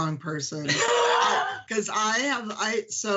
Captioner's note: laughs